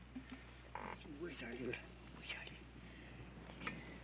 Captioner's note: muttering